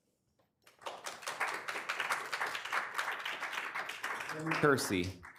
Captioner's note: attendees clapping